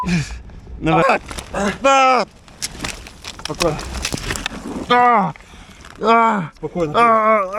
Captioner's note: groan of the wounded soldier